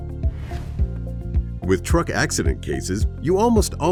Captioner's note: air whooshes